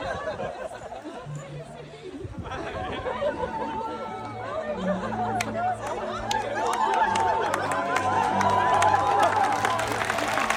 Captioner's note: laughter; applause; cheers and applause